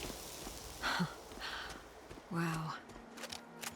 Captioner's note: sighs